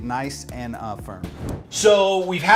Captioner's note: whooshing